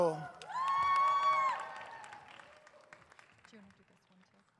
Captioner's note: audience cheers